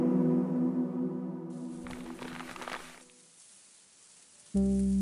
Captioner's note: leaf crunching